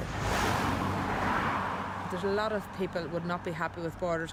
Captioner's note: cars drive